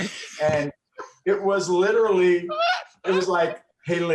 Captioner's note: laughing